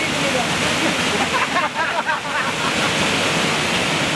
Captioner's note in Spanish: risas